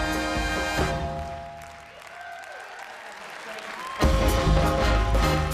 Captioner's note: audience applauding